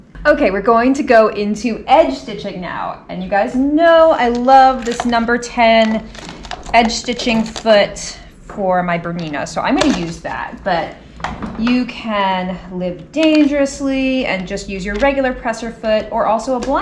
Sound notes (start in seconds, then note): none